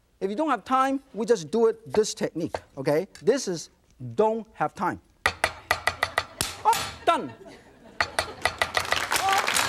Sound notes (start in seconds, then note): 5.3 fast knife chopping; 7.6 audience laughs; 8.7 fast knife chopping